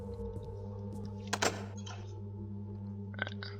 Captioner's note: doorknob loudly clicks